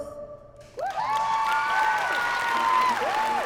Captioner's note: song ends, cheering and applause